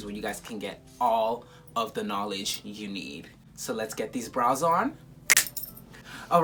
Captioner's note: snap